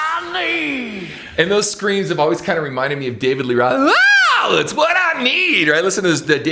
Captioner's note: screams